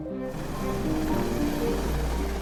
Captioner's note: helicopter whirring; pensive music